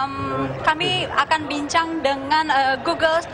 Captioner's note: non-english speech